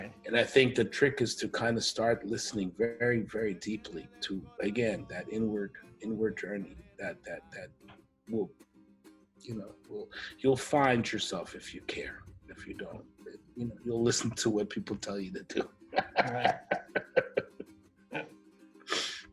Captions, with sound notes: And I think the trick is to kind of start listening very, very, very deeply to, again, that inward, inward journey, that, you know, you'll find yourself if you care. If you don't, you'll listen to what people tell you to do. [CHUCKLES]